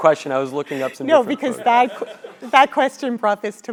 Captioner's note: laugh